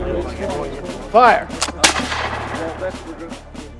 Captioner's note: gunshot